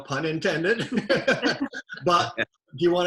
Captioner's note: both chuckle